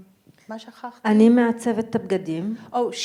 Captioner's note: speaking in foreign language